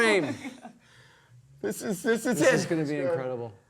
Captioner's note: laughing